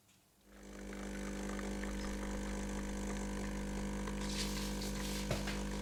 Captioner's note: coffee machine sound